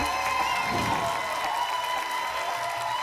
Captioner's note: whoosh; applause and cheering cont